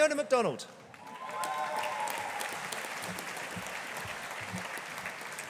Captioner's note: audience applauding